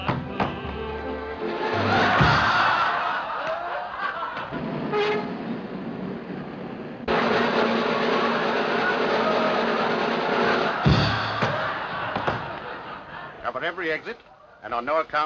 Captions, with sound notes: [ laughing ] [ drum roll ] [ laughing ] Cover every exit, and on no account let anyone leave the building.